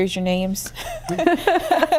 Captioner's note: laughter